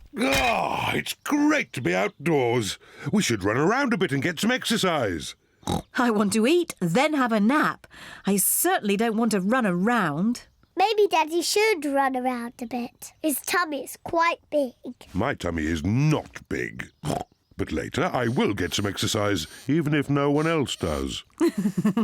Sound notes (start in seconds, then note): 5.6 snorts; 17.0 snorts